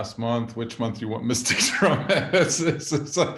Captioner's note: laughing